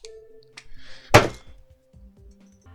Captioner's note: desk slam 1